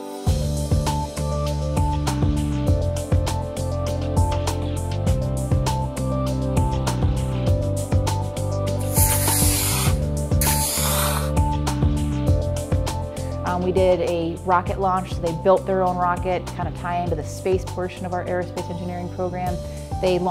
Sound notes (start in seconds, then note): 8.8 rocket engine sizzles